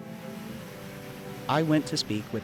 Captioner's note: boat engine roaring